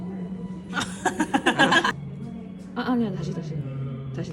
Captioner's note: laughed out too loud